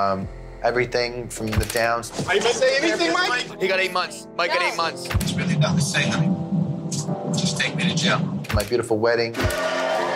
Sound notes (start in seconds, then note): 2.4 people chattering